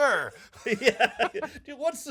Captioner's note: laughing